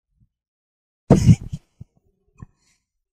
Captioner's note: chuckles